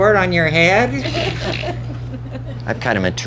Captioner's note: laughing